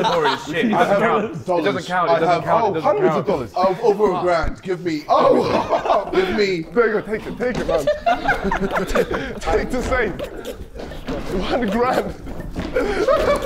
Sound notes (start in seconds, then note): 5.3 laughing; 8.2 Sidemen laughing; 13.2 Sidemen laughing